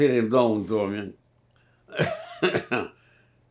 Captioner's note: coughing